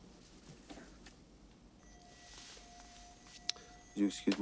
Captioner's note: bell ringing